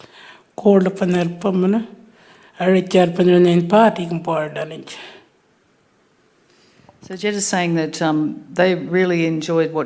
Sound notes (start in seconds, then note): 0.6 speaking Anmatyerr